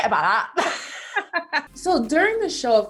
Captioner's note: laughs